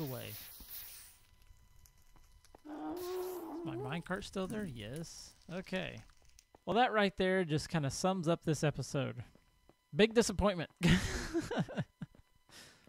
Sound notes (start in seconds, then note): 0.3 shrieking, explosions diminish; 2.6 ghast squalls; 10.9 laughs